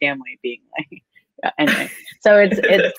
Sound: laughing

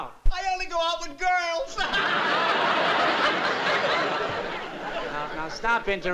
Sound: laughs

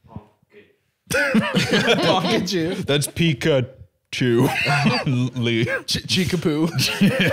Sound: laughs; laughing

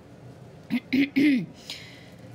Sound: clears throat

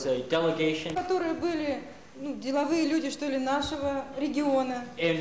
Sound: non-english speech

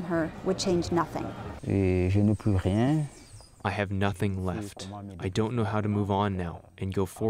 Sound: through translator

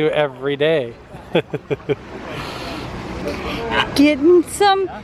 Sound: chuckles

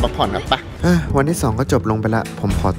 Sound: sighs

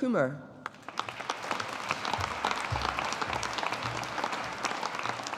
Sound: audience applauding

